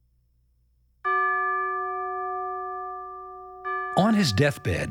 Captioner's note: bell Tolls